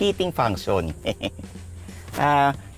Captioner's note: laughs